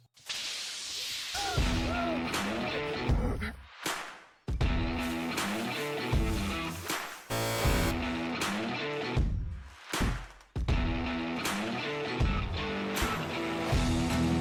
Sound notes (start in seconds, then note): 7.3 buzzer; 10.7 country rock music